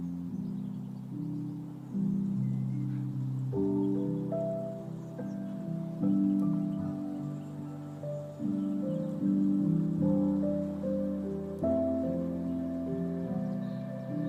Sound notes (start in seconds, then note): none